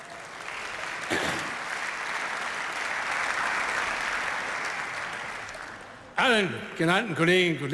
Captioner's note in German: Beifall